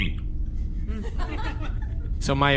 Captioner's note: audience laughter